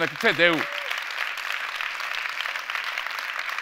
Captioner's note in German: Applaus